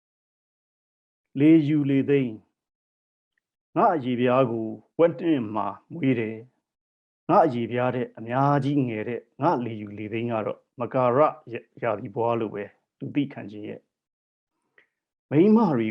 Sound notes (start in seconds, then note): 1.3 speaking burmese